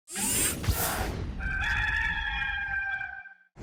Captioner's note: rooster crowing